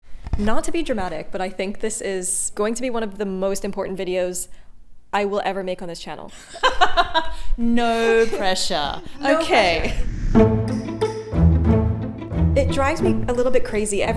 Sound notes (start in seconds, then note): 6.4 laughs; 9.3 upbeat music